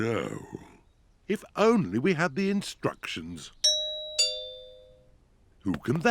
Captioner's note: doorbell rings